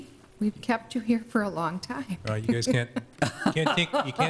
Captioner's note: laughs